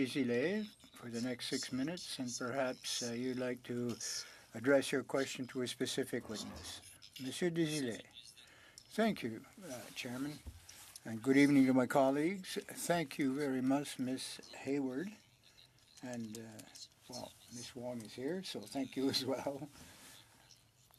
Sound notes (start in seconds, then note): 1.7 speaking French